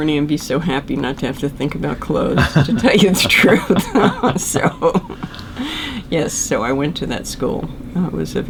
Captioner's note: laughter